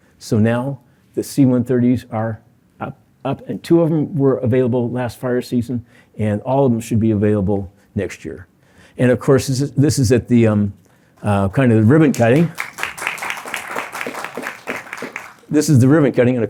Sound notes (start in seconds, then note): 11.8 applause